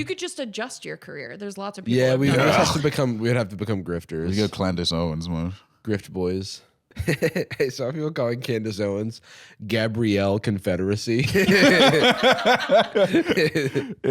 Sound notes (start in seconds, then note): 7.0 laughs; 11.2 all laughing